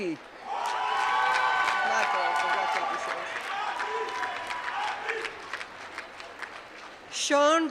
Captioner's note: applause